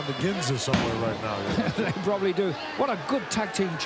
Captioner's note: laugh